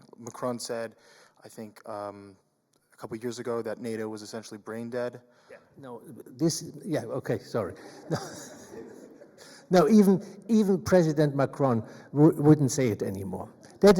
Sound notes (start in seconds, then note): 7.6 audience laughs; 7.6 chuckles